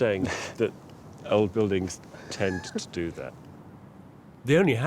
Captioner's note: laughs